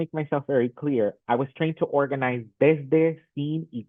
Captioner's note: speaks in Spanish